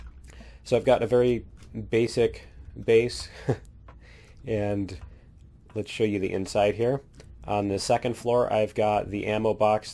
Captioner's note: laughs